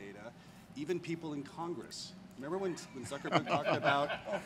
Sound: laughter

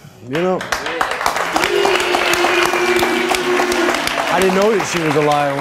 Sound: audience applauding

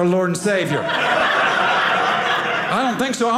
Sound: audience laughing

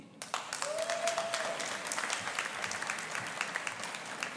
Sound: audience applauding

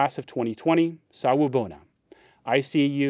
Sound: speaking in foreign language

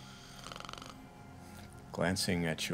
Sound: snoring

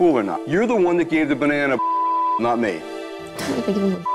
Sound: beep

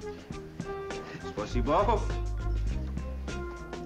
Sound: speaking russian

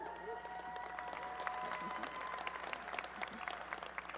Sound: applause and cheering

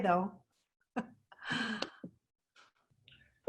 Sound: laughs

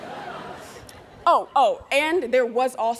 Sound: students laughing

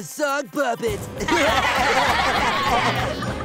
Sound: laughing

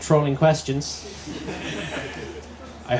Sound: laughter

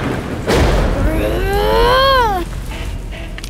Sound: groans

